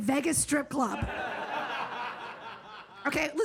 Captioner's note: audience laughs